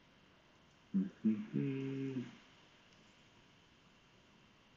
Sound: humming

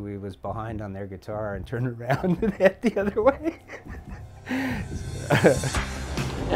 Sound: laughs

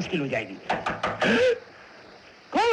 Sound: knock On Door

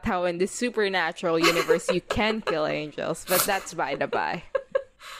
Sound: laughing

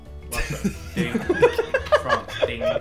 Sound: everyone laughing

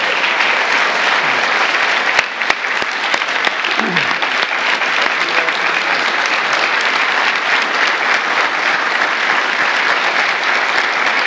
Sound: applause

